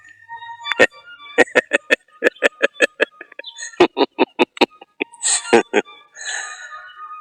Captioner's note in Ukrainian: сміх